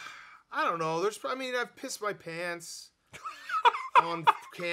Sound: laughing

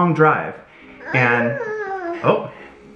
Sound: groans

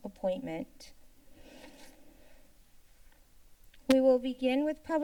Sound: paper rustling sound

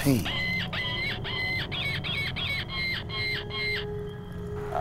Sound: animals shrieking

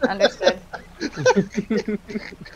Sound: still being laughed

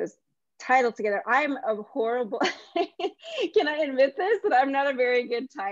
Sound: laughs

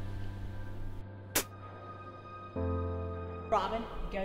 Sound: somber piano music; Tasha spits

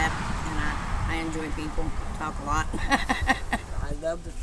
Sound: laughs

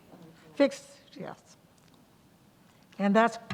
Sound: speaking faintly

